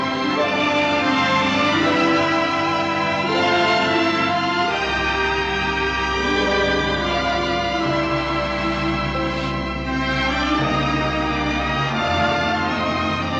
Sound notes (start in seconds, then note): none